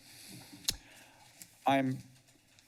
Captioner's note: smacks lips; inhales